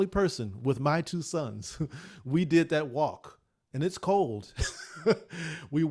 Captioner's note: laughs